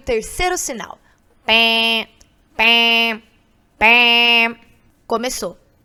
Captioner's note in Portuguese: faz som com a boca